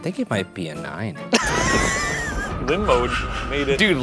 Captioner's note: laughs